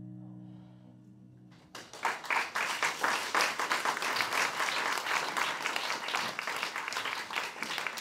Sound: applause

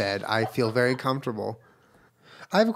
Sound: laughs

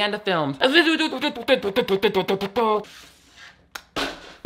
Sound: vocalizes; drink thuds

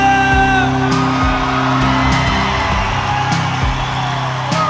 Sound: cheering

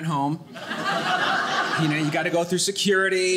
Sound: audience laughing

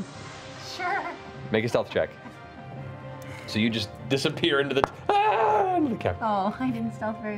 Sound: screaming

